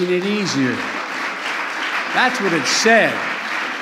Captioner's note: applause